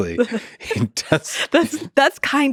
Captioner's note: chuckles